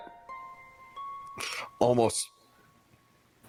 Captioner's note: inhale